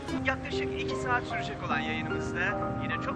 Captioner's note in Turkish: Radyo sesi